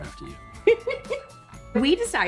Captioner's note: Tori laughs